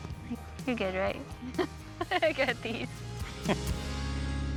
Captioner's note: laughter